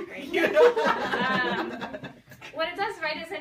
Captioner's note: people laugh